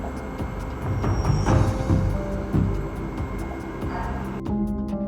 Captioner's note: machinery whirring